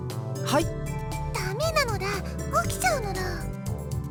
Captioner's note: whisper